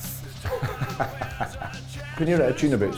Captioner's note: laughter